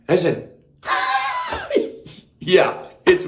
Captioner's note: laughs